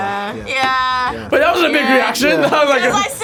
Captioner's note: laughs